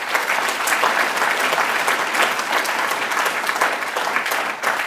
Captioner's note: applause